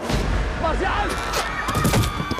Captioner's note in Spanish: Gritos